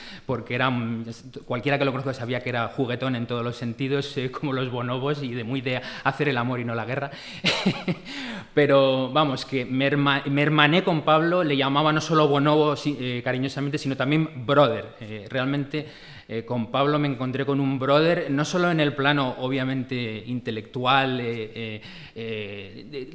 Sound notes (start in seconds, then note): 7.5 laughs